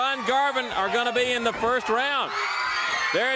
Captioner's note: crowd cheering